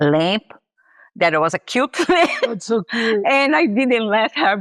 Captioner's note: laughs